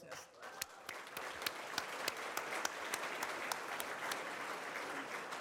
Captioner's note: audience applauds